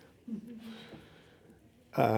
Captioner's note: chuckles